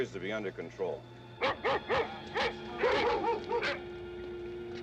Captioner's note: dogs barking